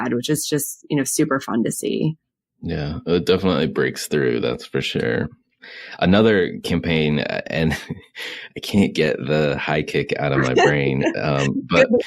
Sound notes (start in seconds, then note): 5.7 laughs; 10.7 mumbles and laughs